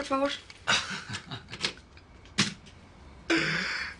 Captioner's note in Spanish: Risas